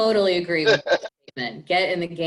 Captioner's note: laughs